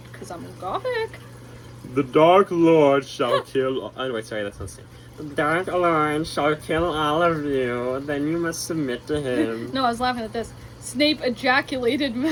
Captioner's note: laughs, moans